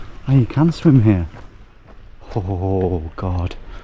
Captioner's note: none